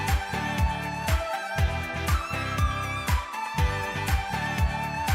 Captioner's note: applause